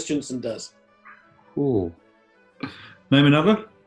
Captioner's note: chuckles